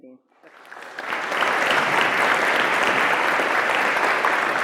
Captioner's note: attendees applauding